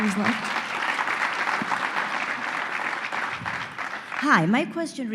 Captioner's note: applause